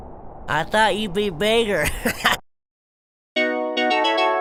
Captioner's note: laughs